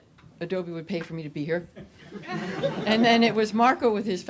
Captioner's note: audience laughs